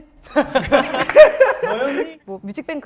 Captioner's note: ha ha ha